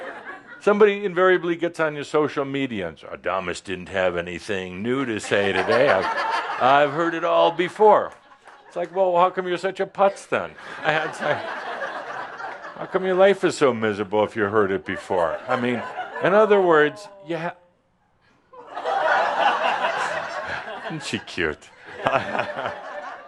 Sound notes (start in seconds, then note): 0.1 some chuckles; 5.1 laughter; 10.6 more laughter; 18.5 laughter